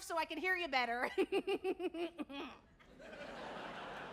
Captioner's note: laughs awkwardly